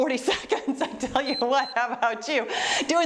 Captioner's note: timer beeps